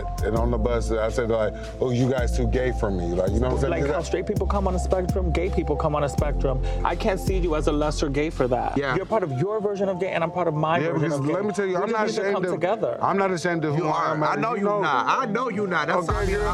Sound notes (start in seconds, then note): 4.4 chill hopeful music; 11.4 people speaking indistinct; 16.3 chill hopeful music; 16.3 people speaking indistinct